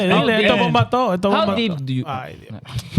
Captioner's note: speaking In Foreign Language